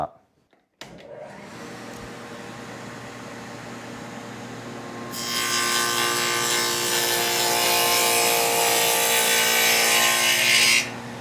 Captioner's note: saw Noise